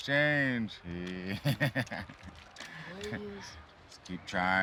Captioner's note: laughs